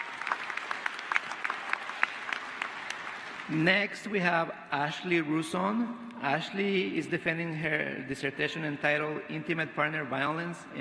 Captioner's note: applause